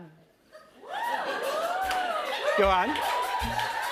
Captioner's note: cheers and applause